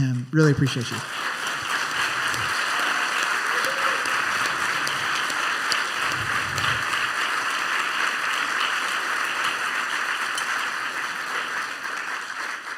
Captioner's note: applause